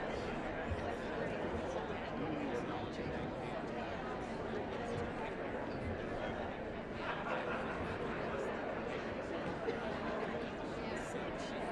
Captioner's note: indistinct chatter